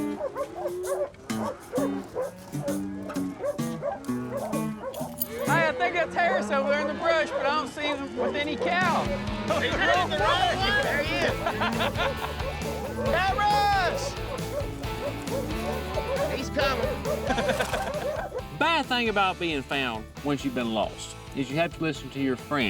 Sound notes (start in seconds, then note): 11.1 laughter; 15.6 dogs barking